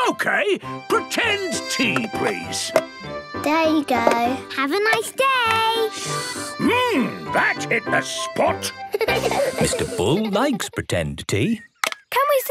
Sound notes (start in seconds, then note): 6.3 slurping; 8.8 giggling